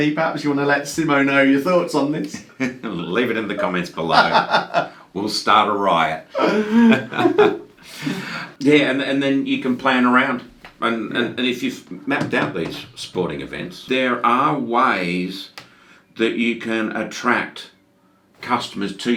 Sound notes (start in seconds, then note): 3.4 laughs; 6.3 both laughs